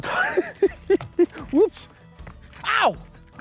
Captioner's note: laughs